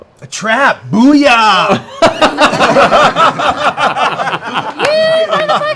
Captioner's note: laughter